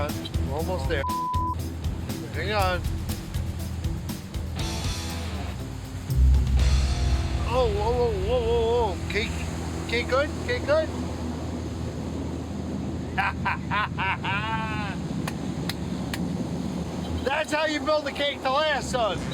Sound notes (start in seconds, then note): 13.1 Buddy laughing and clapping